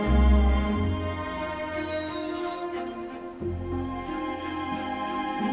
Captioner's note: squeaks